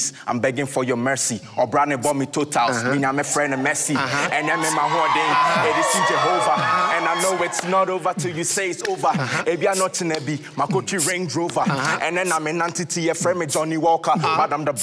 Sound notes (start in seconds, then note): 4.6 crowd cheers and drowns out rapping